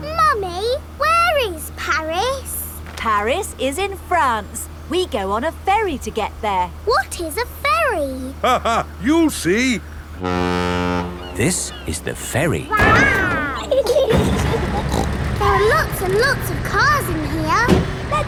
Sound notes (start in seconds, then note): 8.6 laughing; 10.1 ferry horn blows; 12.5 giggling; 14.0 snorts